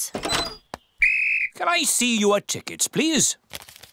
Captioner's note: blows whistle